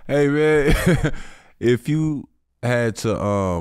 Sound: chuckling

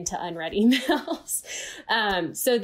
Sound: laughs

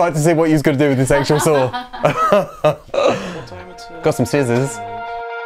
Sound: laughs

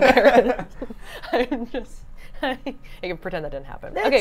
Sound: laugh

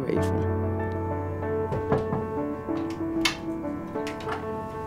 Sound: knocking

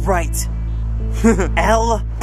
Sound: bitch laugh

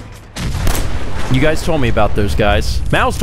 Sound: booooooommm!!!

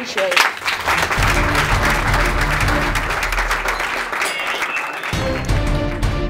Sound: applause; closing music

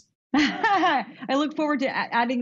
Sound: laughs

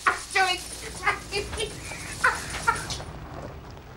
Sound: Lovejoy laughing

